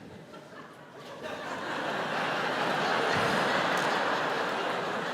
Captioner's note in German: Publikum lacht